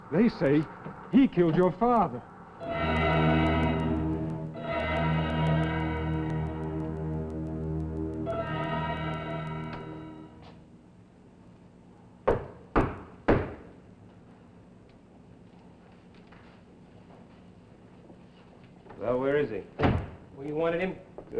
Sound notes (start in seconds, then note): 2.6 suspenseful music; 13.3 knocking on door